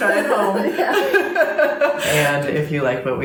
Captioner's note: laughter